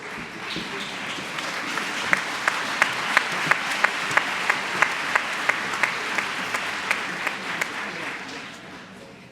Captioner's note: applause